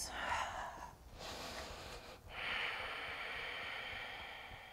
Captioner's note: deep breathing